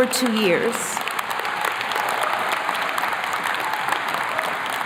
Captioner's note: attendees clapping